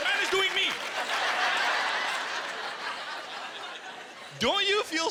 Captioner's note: laughter